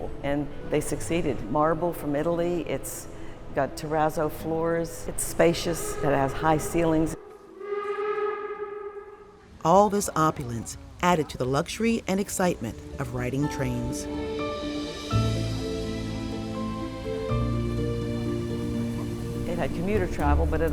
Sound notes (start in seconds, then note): 7.5 train whistle blows; 14.5 light orchestral music